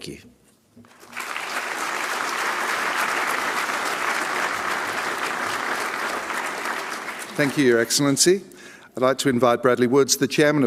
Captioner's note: applause